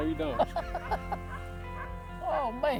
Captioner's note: laughs